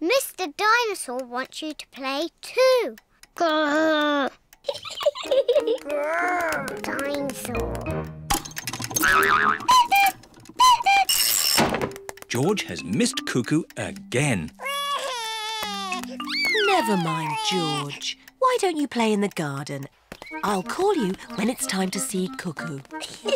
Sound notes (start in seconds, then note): 4.6 laughs; 8.6 clock cuckoos; 14.6 sobs; 23.0 both laugh